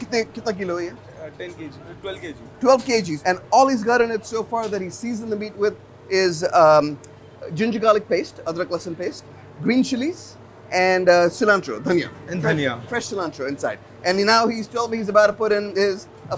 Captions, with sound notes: [speaks foreign language] 12 kgs, and all he is got in it so far that he's seasoned the meat with is ginger, garlic paste, green chilies and cilantro, dhania, fresh cilantro inside. And now he's told me he's about to put in his,